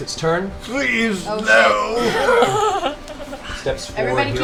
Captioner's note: stone Tiberius voice